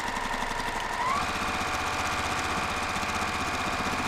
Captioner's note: machine sewing